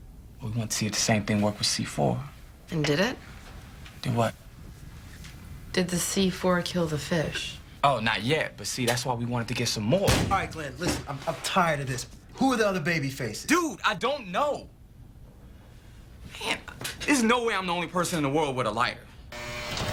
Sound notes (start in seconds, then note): 10.0 bang